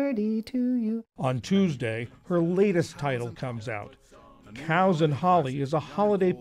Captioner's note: voice-over